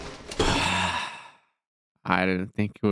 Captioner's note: gasp